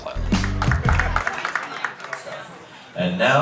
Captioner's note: audience clapping